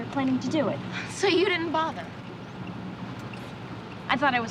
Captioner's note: scoffs